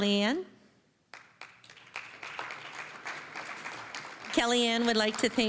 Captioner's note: applause